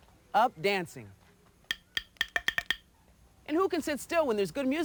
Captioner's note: wood clacks